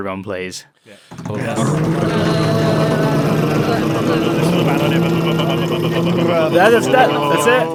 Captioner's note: verbal group drum roll